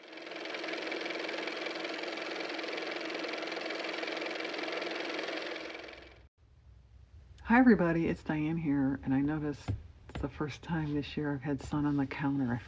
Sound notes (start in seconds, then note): 6.0 car motor